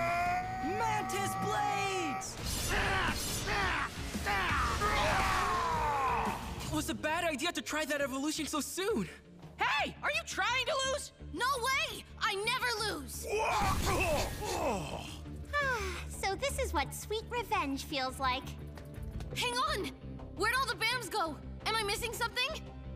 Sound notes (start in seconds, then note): 14.2 grunting